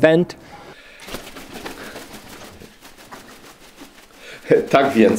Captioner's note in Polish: trzepot skrzydeł